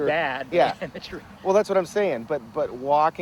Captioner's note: laughs